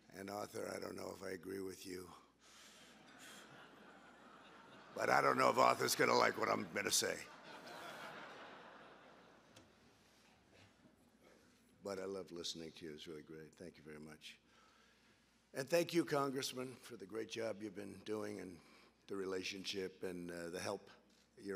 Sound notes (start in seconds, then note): 2.9 laughter; 7.0 laughter